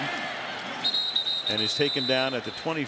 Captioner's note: whistle